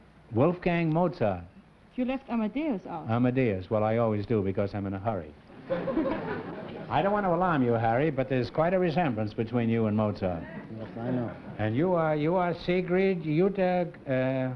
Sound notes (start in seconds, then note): 5.5 laughter